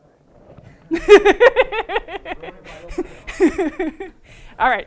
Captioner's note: laughter